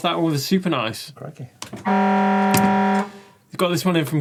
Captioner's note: buzzer sounding